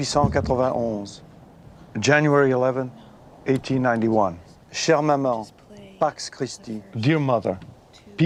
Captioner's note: non-english speech